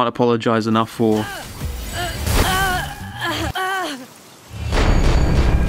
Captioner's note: character grunts; bleak music